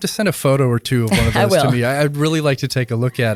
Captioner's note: laughs